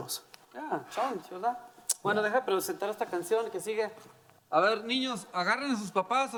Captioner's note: speaking in foreign language